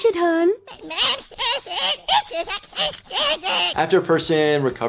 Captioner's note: son rambling